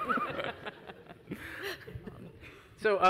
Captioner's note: audience and panelists laughing